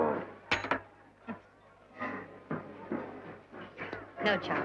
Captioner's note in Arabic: صوت رنين العملة المعدنية